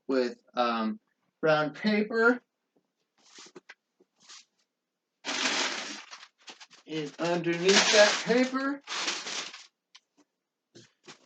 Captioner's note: rustling of paper